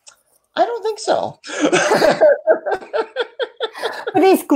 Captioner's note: laughs